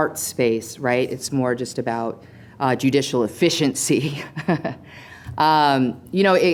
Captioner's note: laughs